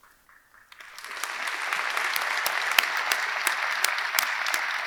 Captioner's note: audience clapping